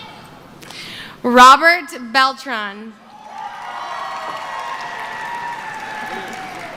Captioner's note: cheering